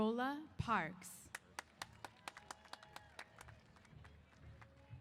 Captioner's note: applause & Cheers